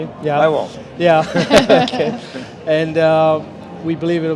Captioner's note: laughter